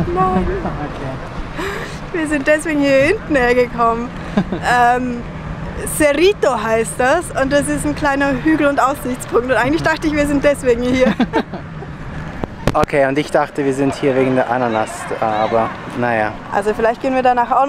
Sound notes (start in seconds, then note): 11.0 laughter